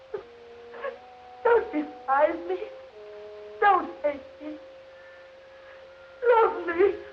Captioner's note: Klili sobbing